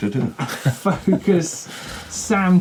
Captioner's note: laughing